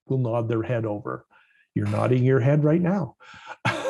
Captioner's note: laugh